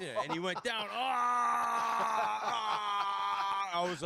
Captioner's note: screaming